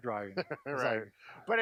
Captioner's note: laughs